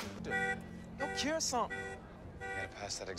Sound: car alarm going off

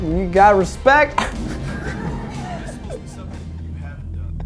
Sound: laughing

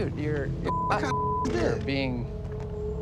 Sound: beeping

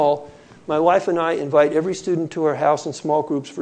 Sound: none

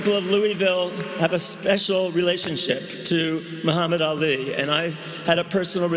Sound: cheering and applause

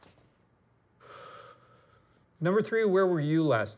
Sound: exhaling

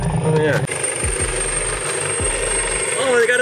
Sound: helicopter whirring

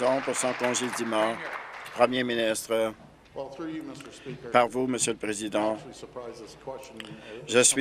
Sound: applause

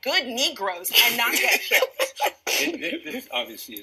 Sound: laughing

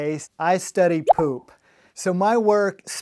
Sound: screen popping

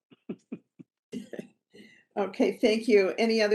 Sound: laughing

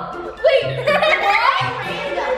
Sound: giggling

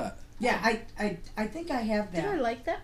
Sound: voiceover

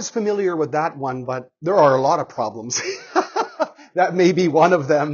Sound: laughs

